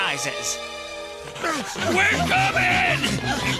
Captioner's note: panting